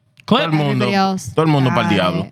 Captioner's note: speaking Spanish